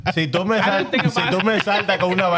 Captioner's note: speaking In Foreign Language